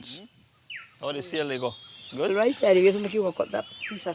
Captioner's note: Spanish spoken audio